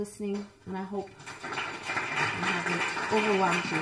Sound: applause

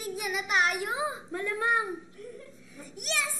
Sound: Ethel giggles

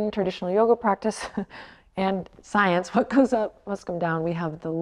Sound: chuckles

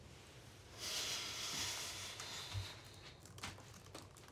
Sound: Sam sighs

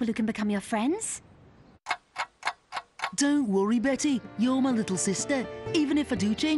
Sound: clock ticking

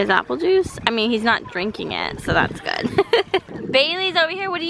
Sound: laughs

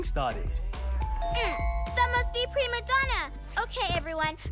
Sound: doorbell rings

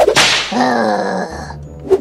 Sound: snap

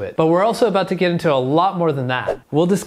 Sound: screen whooshing

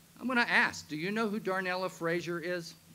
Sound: none

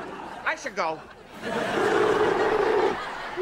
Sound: grunting

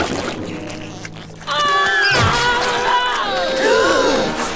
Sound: screaming

